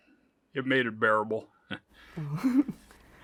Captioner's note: chuckles